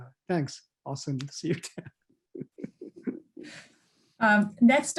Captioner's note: laughter